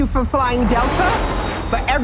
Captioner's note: airplane whooshing